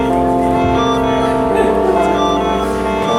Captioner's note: laughter